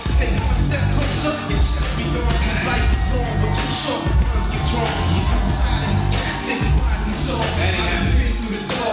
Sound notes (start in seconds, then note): 3.2 crowd cheering